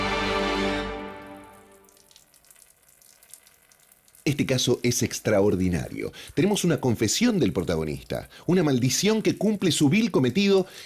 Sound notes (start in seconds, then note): 1.0 man urinating